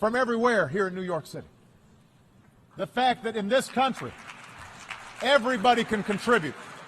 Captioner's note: applause